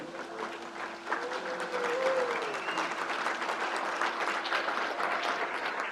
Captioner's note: crowd cheers and applauds